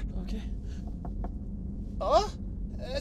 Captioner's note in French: Toc toc